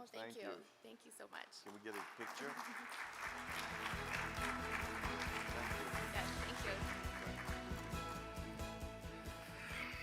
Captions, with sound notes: - Oh, thank you. - Thank you. - Thank you so much. - Can we get a picture? (audience applaud) (cheerful music) - Thank you. - Thank you. (cheerful music)